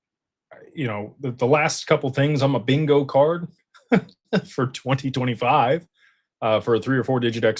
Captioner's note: laughter